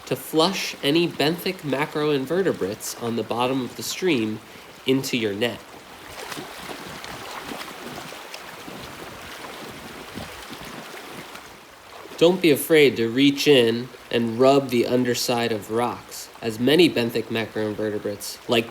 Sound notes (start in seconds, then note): 6.6 water splashing